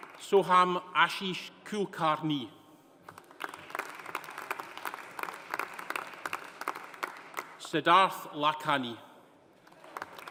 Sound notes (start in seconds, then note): 3.1 audience applauding; 9.6 audience applauding